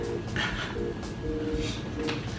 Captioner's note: giggle